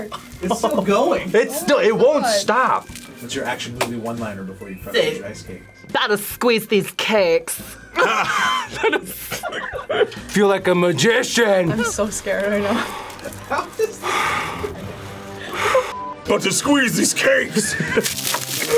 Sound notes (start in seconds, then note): 7.9 both laugh; 15.3 laughs